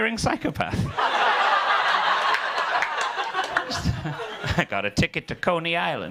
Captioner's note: audience laughing, clapping